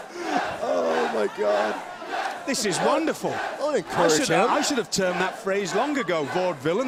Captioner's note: fans chanting